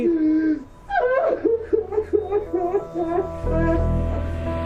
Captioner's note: sobbing loudly